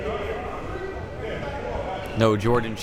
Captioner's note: none